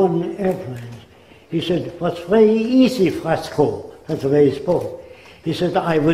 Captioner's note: German accent